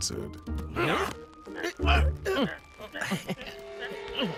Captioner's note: all grunt